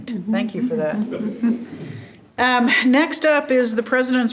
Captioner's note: group chuckling